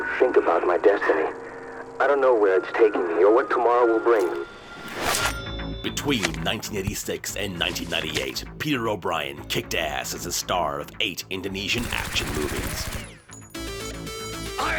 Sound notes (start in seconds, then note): 4.2 metallic sound; 13.3 dramatic music